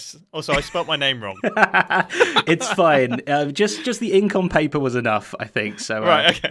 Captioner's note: laughs